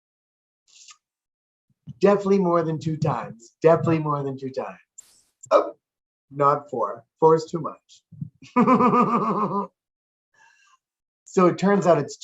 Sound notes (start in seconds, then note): 8.6 laughs